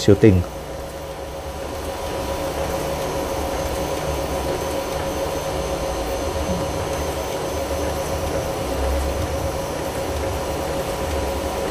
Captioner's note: printer machine noise